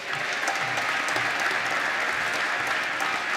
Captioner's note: applause